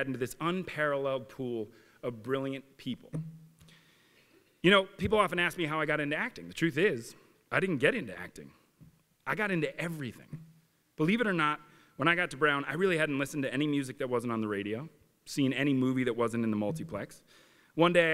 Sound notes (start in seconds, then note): none